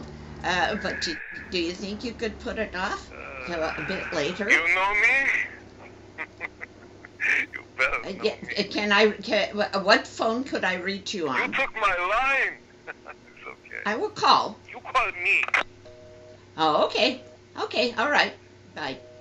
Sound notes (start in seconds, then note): 5.2 chuckles softly